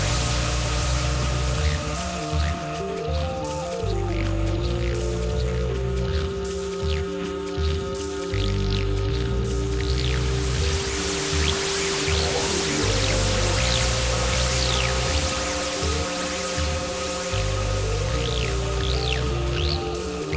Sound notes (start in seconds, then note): 1.1 choir droning; 10.4 static; 17.5 choir droning